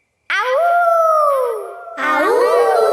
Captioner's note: kids howling; howling